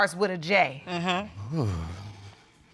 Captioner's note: sighs